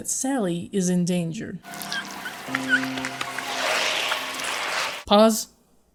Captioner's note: sonidos de deslizamiento y Sally jadeando por aire